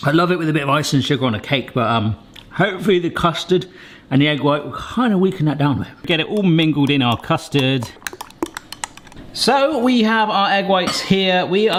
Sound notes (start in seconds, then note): 7.6 spoon clanking